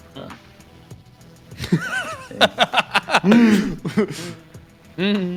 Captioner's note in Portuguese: Risadas